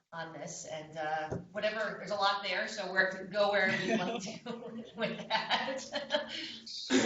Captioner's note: laughter